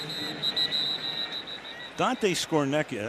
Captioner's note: whistle